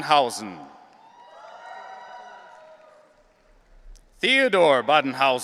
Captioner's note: audience cheering